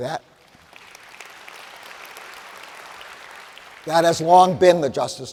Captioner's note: audience applauds